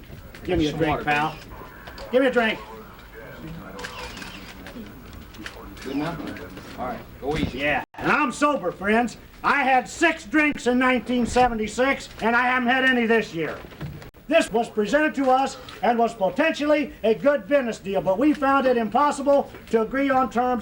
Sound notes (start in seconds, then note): 3.3 cameras clicking